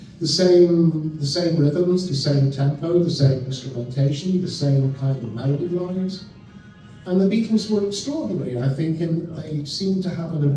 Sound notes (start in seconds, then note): none